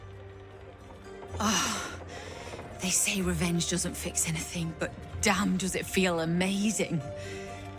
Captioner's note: sighs